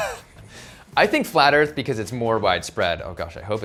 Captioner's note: laughs